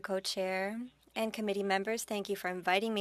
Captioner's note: speaking French